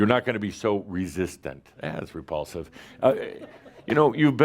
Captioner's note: more chuckles